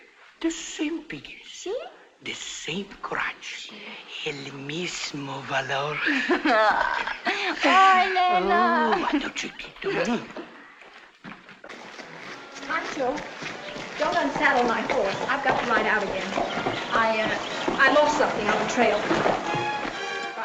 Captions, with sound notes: The same face, the same hair. [ IN SPANISH ] The same courage. [ CHUCKLING ] Oh Elena. Pancho, don't unsaddle my horse, I've got to get out again. I lost something on the trail.